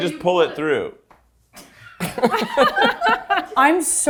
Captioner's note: laugh